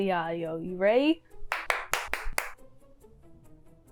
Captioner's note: clapping